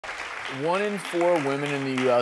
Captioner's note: audience applauding